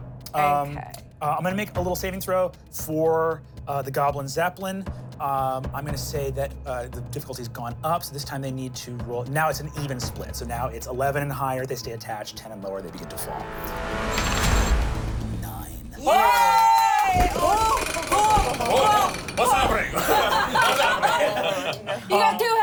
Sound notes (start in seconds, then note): 13.8 dramatic music; 15.8 everyone cheers